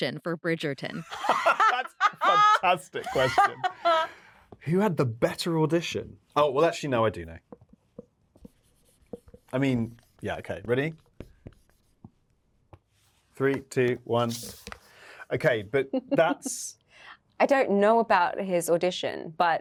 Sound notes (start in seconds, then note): 3.7 both laughing; 16.1 Yerin laughing